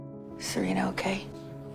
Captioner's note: voiceover